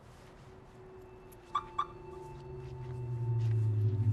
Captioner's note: car beeps